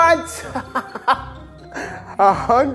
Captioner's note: laughing